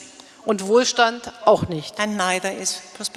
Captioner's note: speaking in German